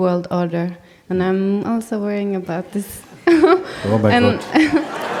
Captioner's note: laughter